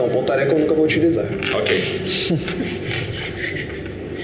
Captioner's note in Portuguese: risadas